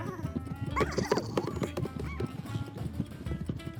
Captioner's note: sheep bleating